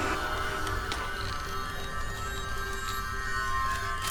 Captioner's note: banging